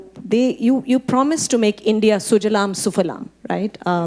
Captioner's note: speaking Hindi